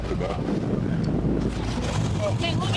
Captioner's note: wind swooshing